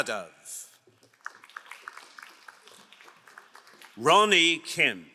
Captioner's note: crowd applauding